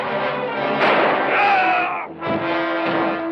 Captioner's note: gun fires; yells